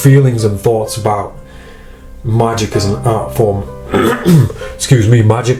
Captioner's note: clears throat